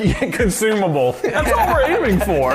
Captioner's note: chuckling